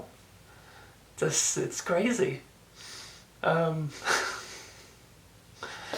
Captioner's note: laughs